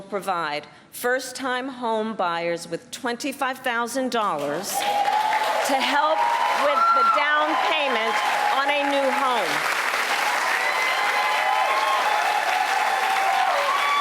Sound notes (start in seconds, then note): 11.4 applause